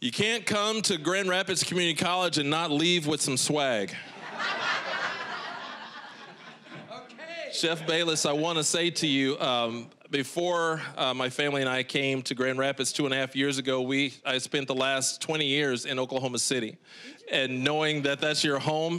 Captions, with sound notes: You can't come to Grand Rapids Community College and not leave with some swag. (audience laughing) >> Okay! >> Chef Bayless, I wanna say to you, before my family and I came to Grand Rapids 2.5 years ago, we-- I spent the last 20 years in Oklahoma City. >> Did you? >> And knowing that that's your home,